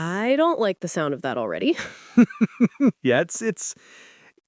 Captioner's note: chuckling